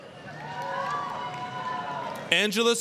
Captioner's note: applause, cheering